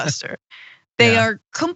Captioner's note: laugh